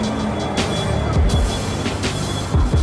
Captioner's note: street sounds